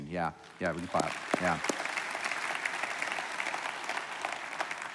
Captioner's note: applauding